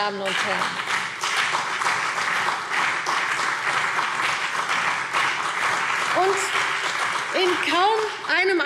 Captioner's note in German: Beifall CDU und BÜNDNIS 90/DIE GRÜNEN